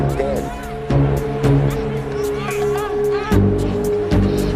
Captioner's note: women groaning